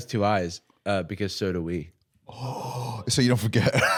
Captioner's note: gasps